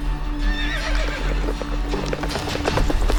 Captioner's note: horse neighs; horses trotting away